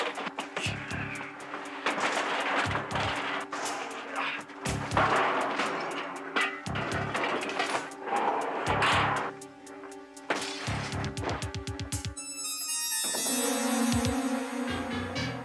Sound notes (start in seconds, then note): 1.9 tires crashing; 6.4 tire rims clanging; 10.2 glass shattering; 12.3 suspenseful music